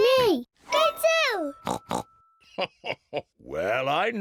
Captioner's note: oinks; chuckles